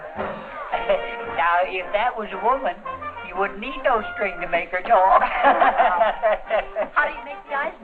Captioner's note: laughter